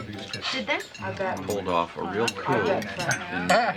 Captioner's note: chattering